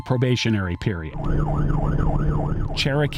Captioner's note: police sirens